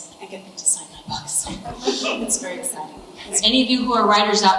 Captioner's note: audience laughs